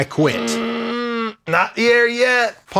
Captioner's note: grunting